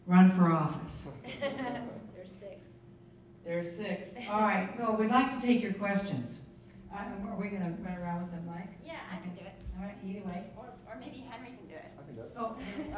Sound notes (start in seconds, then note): 1.2 people laughing